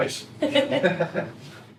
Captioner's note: both laugh